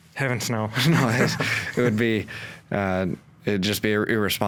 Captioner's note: both chuckle